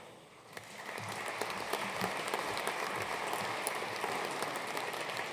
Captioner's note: audience applauding